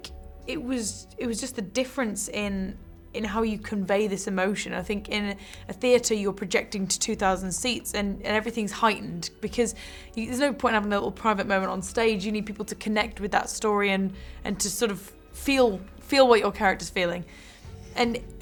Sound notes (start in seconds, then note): none